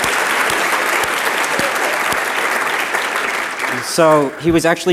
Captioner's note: applause; cheering